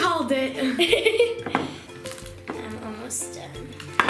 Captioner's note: laughter